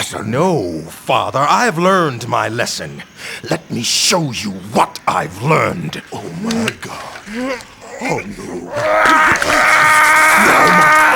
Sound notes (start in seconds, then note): 6.3 bones cracking; 7.2 grunt; 8.6 scream; 8.7 flesh ripping